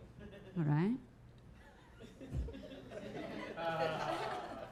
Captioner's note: audience chuckling